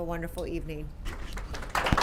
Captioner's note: applause